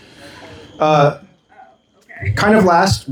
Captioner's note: laughing